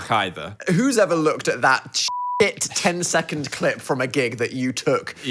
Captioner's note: beep